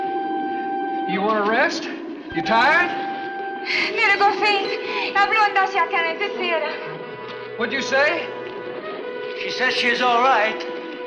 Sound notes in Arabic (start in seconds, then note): 3.5 آن تتحدث السويدية